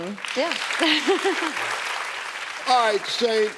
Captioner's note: clapping; laughs